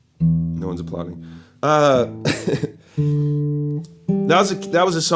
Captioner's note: chuckles